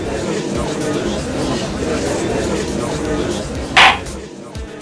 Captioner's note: gallery chattering; gavel slams!